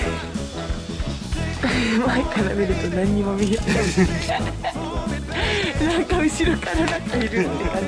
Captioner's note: laughs